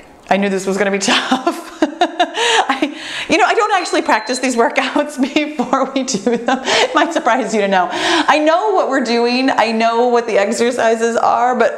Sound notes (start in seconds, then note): 3.6 timer beeps